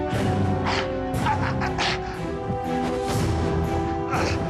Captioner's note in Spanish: quejidos